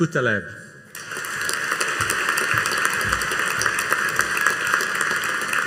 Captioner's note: audience applauding